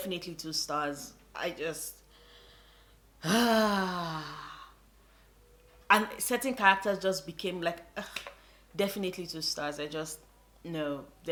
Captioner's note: drawn out sigh; sigh